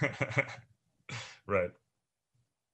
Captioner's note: chuckles